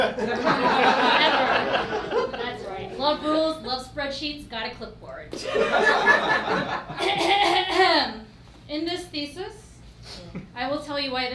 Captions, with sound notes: (laughing) That's right. Love rules, love spreadsheets, got a clipboard. (laughing) In this thesis, I will tell you why